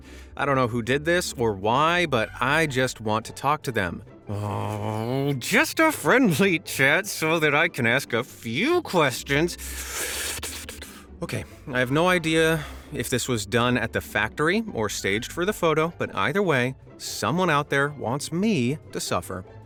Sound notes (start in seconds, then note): 4.3 seething; 5.3 talking through gritted teeth; 9.6 inhales deeply